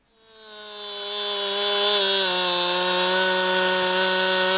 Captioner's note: saw engine revving